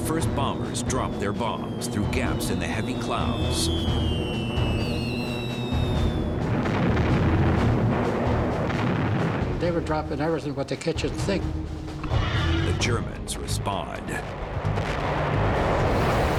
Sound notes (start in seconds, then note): 2.8 bombs whistling; 5.6 explosions; 13.8 sounds of battle